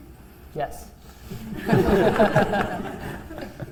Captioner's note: laughter